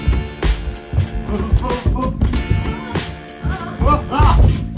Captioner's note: 80s chase music; nervous yells from Crimp and Cramp; 80s chase music